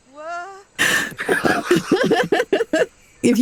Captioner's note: laughter